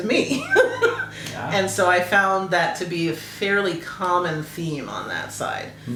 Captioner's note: laugh